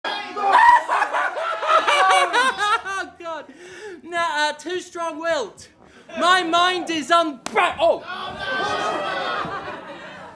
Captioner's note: slaps own face